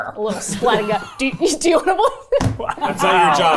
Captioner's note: laughing